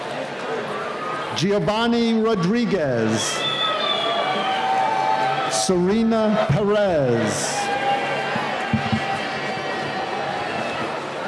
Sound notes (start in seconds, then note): 3.8 cheering